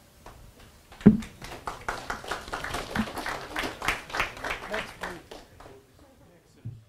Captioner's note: audience applause